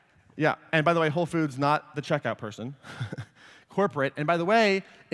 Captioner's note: laughs